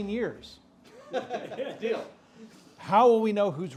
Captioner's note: audience laughs